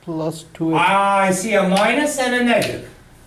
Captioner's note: voiceover